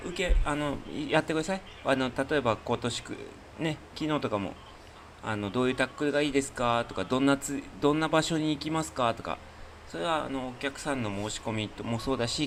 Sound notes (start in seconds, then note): none